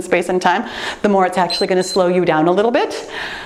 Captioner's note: timer beeps